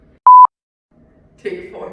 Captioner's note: beep